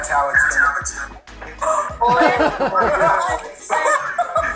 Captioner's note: all laughing